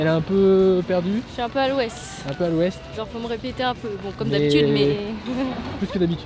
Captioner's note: laughs